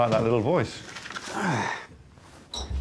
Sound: sighs

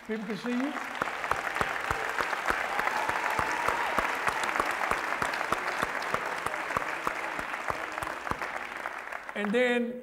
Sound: applause

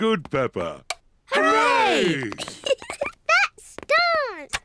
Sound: giggles

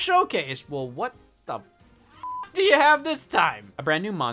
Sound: beep

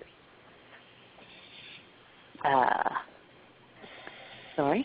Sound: silence

